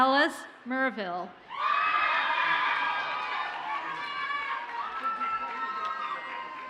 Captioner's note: audience cheers and applauds